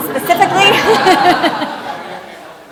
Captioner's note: laughter